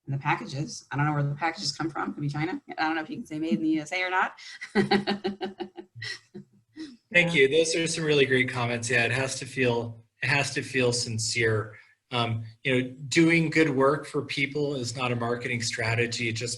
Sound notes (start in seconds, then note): 7.1 laughing